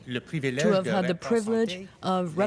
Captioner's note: speaking french